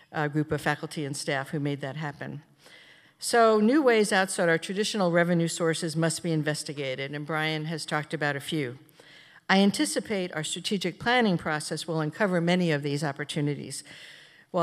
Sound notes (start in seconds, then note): none